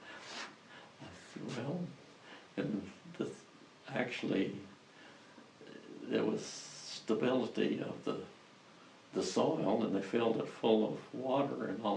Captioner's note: laughs